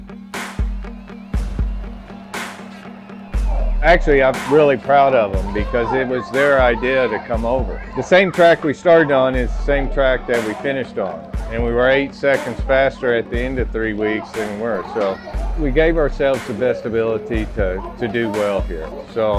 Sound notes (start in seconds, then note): 1.7 crowd cheering